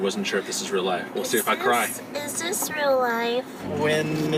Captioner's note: in a child-like voice